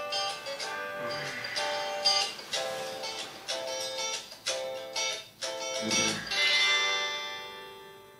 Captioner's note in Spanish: Suena alarma